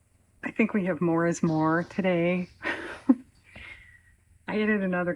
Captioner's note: laughs